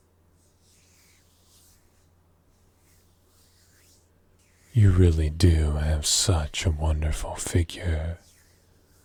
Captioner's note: hand noises